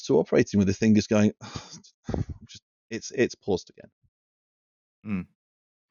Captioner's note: resigned/frustrated operator noises